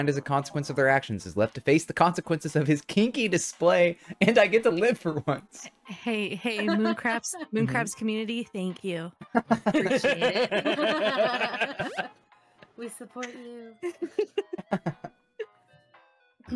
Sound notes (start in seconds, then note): 10.8 laughing; 13.8 laughing